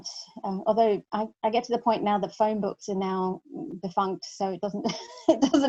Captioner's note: laughs